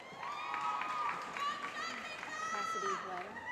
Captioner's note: cheering